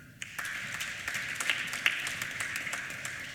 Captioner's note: applause